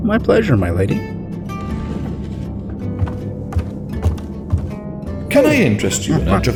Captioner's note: chair scraping on wood; footsteps; ape noises